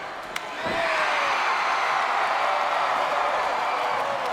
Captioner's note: crowd cheers